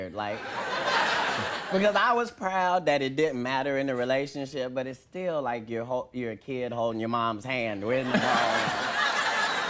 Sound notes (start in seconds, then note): 0.3 audience laughing; 8.0 audience laughing